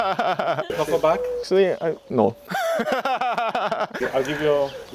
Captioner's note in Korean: 웃음; 웃음